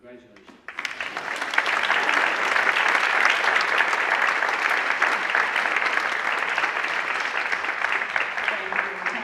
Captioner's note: applause